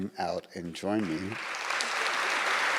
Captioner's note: audience applauds